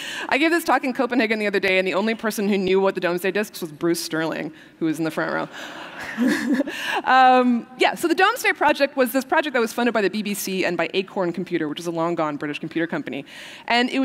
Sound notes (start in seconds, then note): 5.6 laughter